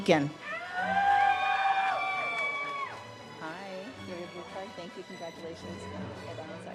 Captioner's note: stately music; audience cheers